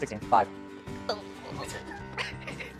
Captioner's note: belly Noises